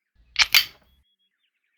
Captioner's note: click